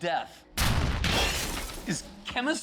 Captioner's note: explosions boom, glass shatters